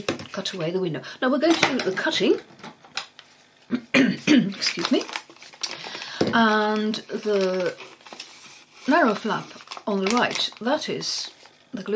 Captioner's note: coughs - excuse me